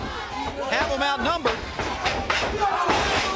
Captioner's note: crowd cheering